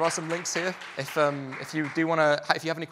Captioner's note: applause